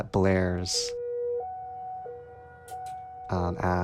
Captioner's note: soundbite of siren